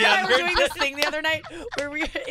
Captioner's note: laughing